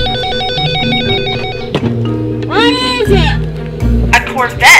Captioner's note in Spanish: suena el teléfono